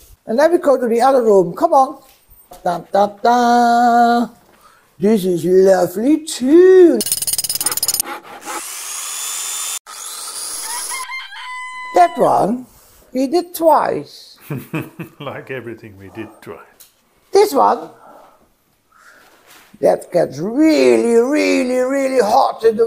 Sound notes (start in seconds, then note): 14.4 laughing